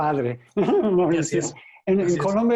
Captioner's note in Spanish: ríe